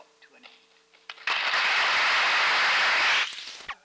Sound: applause

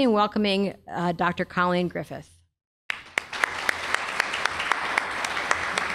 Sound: applause

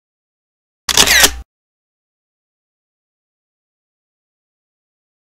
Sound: camera shutters

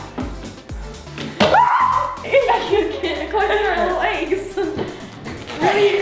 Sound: capsule bangs, screams

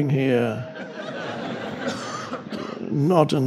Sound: crowd laughs

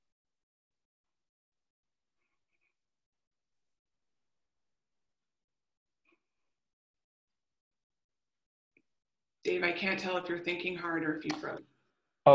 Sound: silence

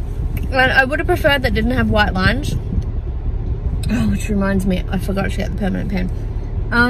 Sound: exasperatedly

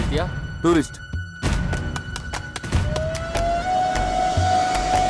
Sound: stamping

